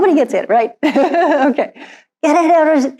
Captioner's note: laughs